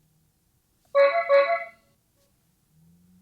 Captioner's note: clown Horn sound